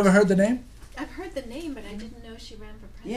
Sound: voiceover

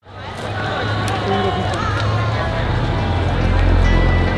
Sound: crowd chatter

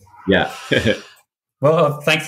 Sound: both laughing

